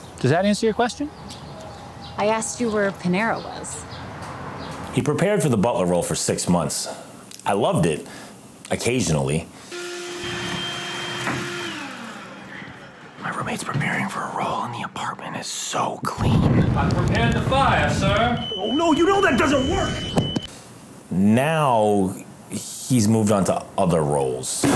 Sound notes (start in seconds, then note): 9.7 vacuum cleaner humming; 17.5 alarm blaring